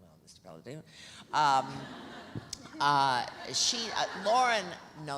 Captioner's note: audience laughs